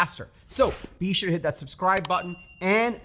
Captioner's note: bell chimes